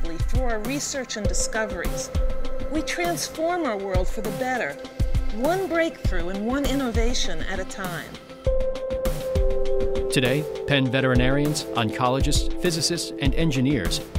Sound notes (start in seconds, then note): 10.1 voiceover